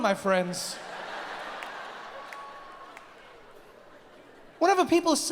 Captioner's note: audience laughs